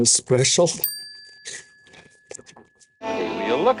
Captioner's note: bell dings